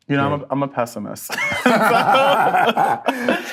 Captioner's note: both laugh